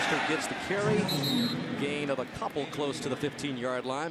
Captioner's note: whistle blows